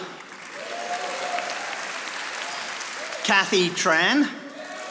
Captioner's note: audience applauding